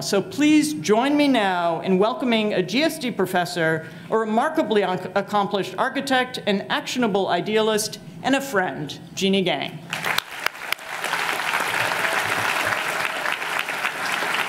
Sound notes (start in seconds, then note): 9.9 audience applauding